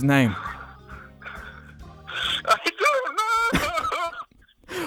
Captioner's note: laughter